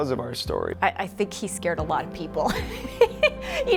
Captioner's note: laughs